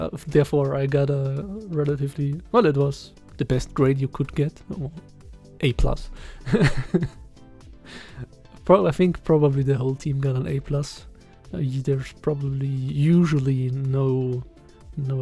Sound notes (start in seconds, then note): 6.5 laughs